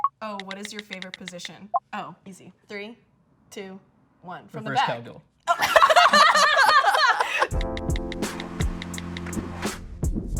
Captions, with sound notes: - Oh, what is your favorite position? Oh, easy. Three, two, one. - Reverse cowgirl. - From the back. (both laugh) (light music)